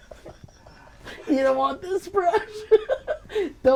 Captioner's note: laughing